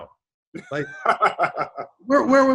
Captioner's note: David laughs